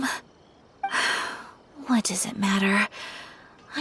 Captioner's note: sigh